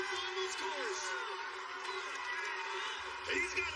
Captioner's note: cheers and applause